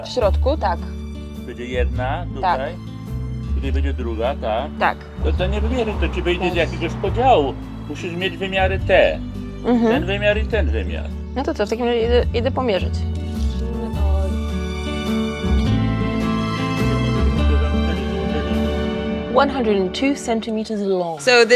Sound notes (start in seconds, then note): 0.0 grandpa speaks foreign language; 0.3 speaks foreign language; 1.6 grandpa speaks foreign language; 2.6 speaks foreign language; 3.7 grandpa speaks foreign language; 5.0 speaks foreign language; 6.0 grandpa speaks foreign language; 11.6 speaks foreign language; 14.9 gentle music